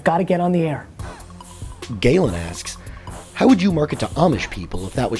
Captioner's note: voiceover